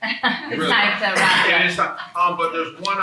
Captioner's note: attendee coughing